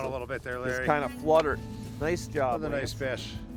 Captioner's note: voiceover